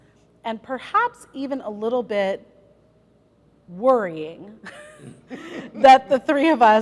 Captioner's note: laughter